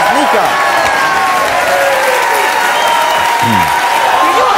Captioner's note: audience clapping